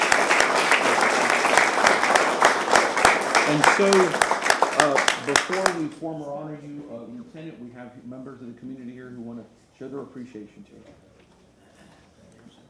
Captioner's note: applause